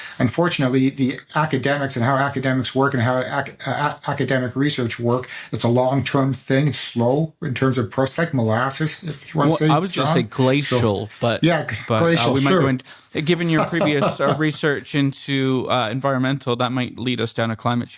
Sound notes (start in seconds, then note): 13.4 laughter